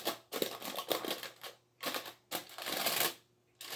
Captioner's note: foil rustling